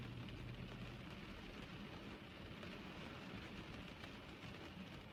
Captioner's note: rain continues pattering